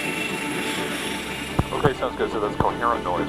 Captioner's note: man On Radio